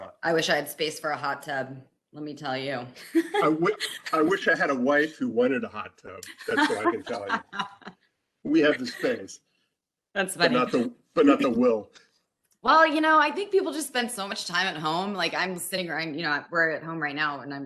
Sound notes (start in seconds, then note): 6.2 laughs